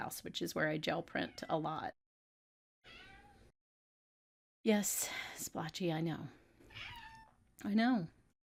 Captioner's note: meow